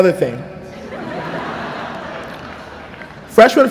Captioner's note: laughter